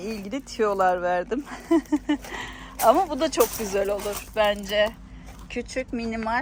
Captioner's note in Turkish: kahkaha